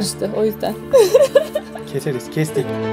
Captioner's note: laughs